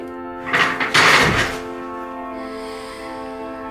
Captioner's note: chair squeaking; chair clattering; student breathes deeply